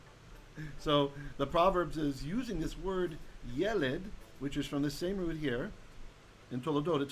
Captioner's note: Hebrew